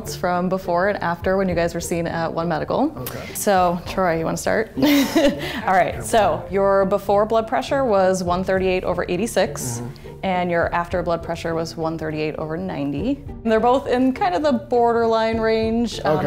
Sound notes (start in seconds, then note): 4.8 laughs